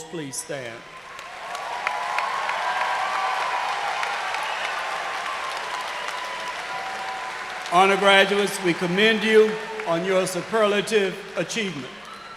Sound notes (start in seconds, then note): 8.1 cheers and applause